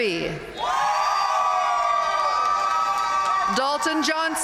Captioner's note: audience cheering and applauding